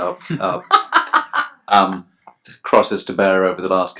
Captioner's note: laughs